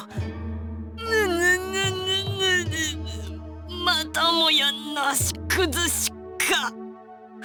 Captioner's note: seething